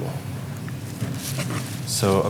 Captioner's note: rustling